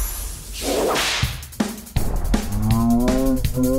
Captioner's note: whip sound